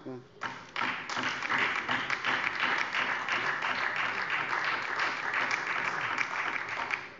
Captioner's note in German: Beifall DIE LINKE und SPD